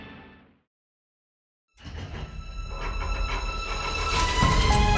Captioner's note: vault clattering